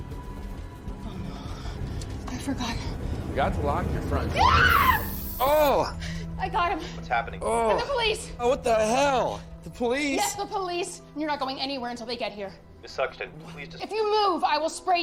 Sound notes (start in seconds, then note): 4.3 screams, , sprays